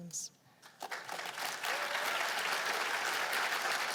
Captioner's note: applause